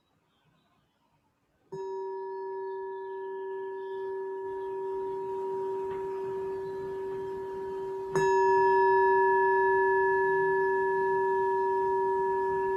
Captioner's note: sound of a gong ringing three times and the echo fading